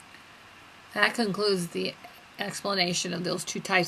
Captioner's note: voiceover